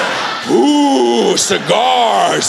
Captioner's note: exhale